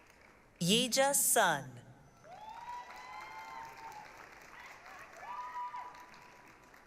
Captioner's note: applause, cheering